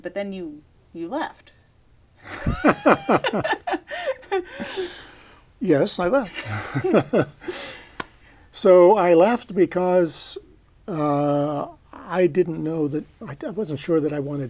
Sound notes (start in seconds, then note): 2.2 laughter